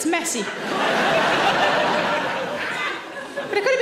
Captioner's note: audience laughing